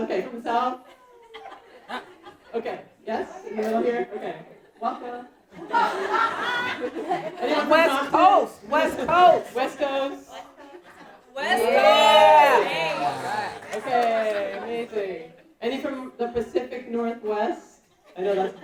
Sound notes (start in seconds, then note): 5.6 audience laughing; 9.8 laughs